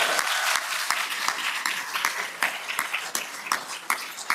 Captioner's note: applause